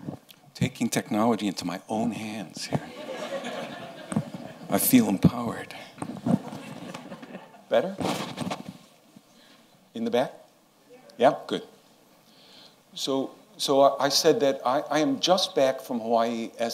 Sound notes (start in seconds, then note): 2.8 laughter